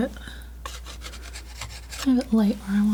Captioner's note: scratching